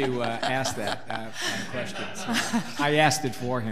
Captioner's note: laughing